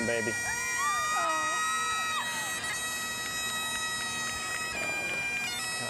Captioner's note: observers shouting and cheering